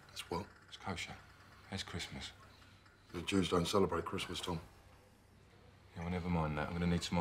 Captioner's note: none